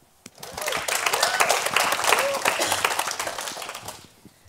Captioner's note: applause